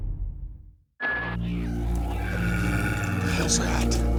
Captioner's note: growling